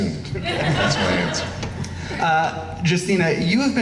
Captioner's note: laughing